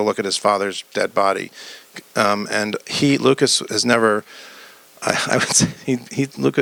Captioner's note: laughs